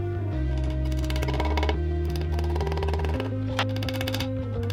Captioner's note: drill whirring